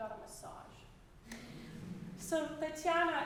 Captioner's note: audience laughing